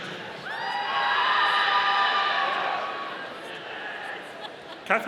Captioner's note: audience cheering